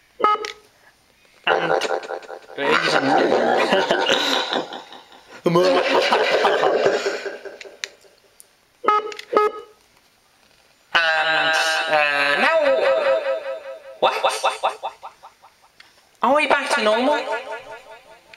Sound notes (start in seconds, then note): 5.1 evil laugh; 8.8 beep boop